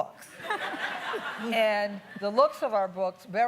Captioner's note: laughing